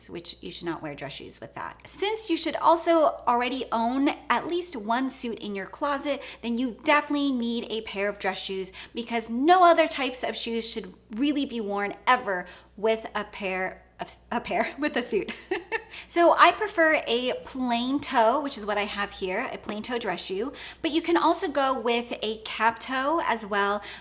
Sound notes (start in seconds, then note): 15.3 laughs